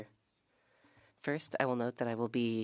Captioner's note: speaking French